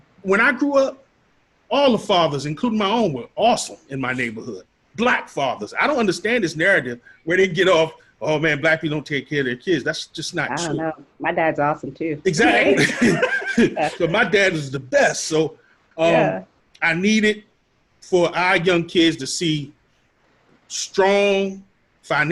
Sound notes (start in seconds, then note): 12.3 all laughing